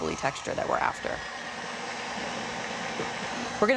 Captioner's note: mixer whirring